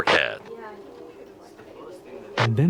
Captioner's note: channel changes